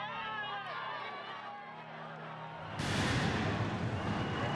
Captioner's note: explosions